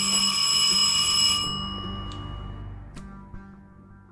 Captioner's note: doorbell rings